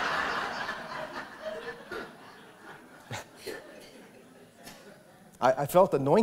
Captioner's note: laughter